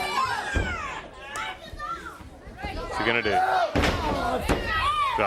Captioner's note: crowd chatter